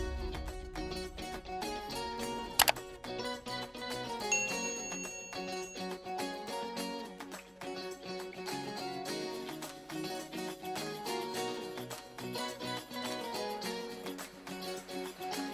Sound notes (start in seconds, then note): 0.1 upbeat music; 2.5 bell ringing; 2.5 mouse clicking